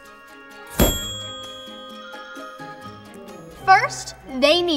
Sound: dinging

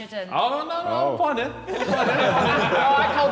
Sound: Sidemen laughing

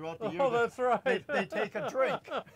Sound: laughs

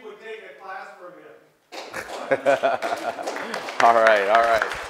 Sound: applause

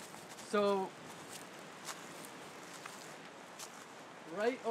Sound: rustling sounds

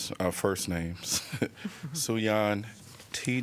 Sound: laughter

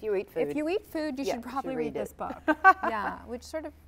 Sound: laughter

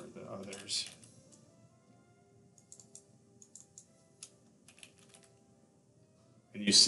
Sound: sound of typing

